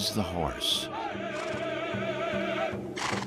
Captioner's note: people chanting and drumming; horse snorts